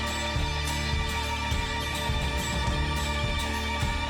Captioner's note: none